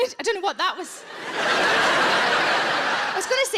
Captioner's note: audience laughs